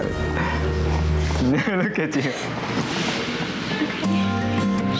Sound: laughs

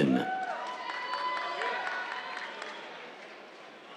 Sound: cheers, applause

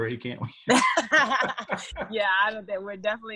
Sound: laughter

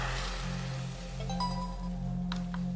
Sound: click

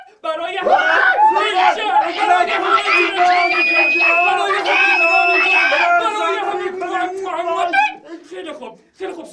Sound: fake celebrating sound

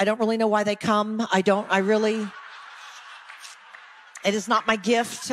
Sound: audience laughing

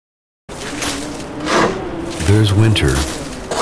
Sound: shovelling sounds

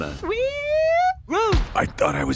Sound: thump

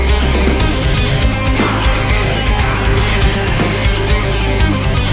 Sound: whispers

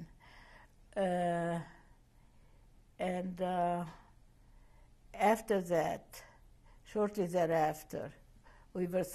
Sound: pauses for 3 seconds

